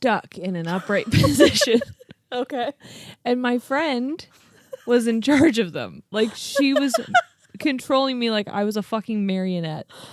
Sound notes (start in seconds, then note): 0.7 laugh; 6.2 laughs